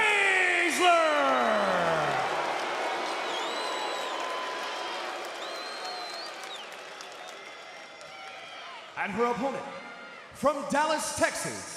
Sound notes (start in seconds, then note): 2.5 crowd cheering